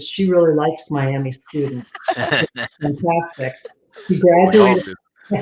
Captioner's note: laughter